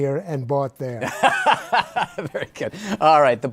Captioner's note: laughs